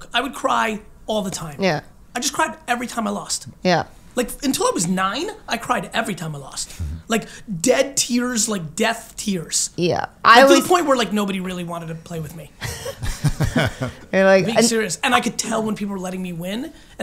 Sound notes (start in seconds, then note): 12.6 laughing